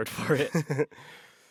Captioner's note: laughter